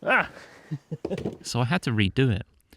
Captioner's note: ack!